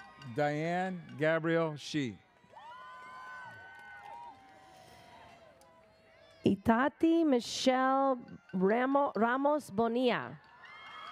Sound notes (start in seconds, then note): 2.4 audience cheers